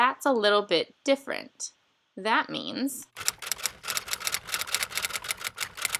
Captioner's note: typewriter sounds